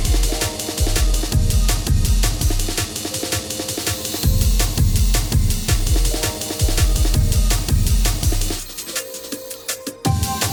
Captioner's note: sanding drum